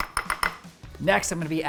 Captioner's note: spoon tapping bowl